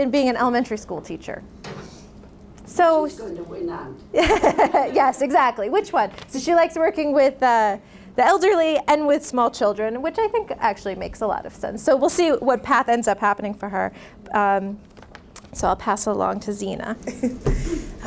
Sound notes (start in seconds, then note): 4.2 laughing; 17.0 laughs